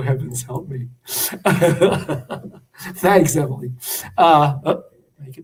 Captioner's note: laughter